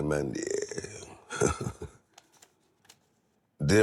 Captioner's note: chuckles